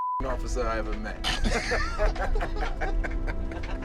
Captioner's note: laughter